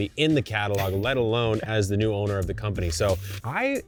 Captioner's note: chuckling